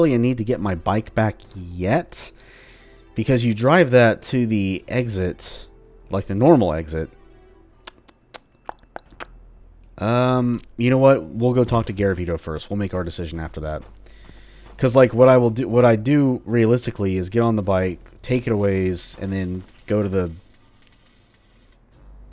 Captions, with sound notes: need to get my bike back yet, because you drive that to the exit -- like the normal exit -- *EVEN MOAR thinking sounds* um, you know what? We'll go talk to Garavito first; we'll make our decision after that. Because, like, what I will do- what I do, realistically, is get on the bike, take it a ways, and then go to the...